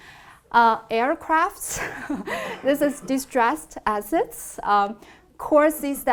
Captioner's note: laughs